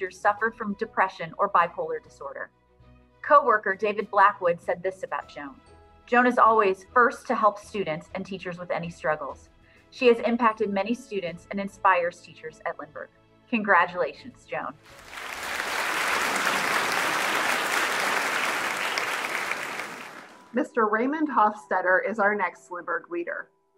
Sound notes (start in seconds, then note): 14.8 audience clapping